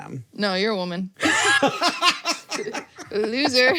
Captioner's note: laughs